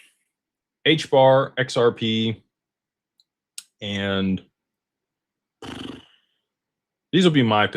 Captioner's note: snorts